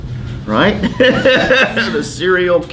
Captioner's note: laughs